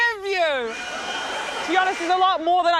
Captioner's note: leaf blower whirrs